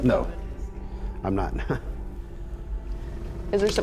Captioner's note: chuckles